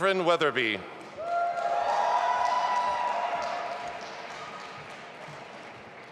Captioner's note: audience applauding and cheering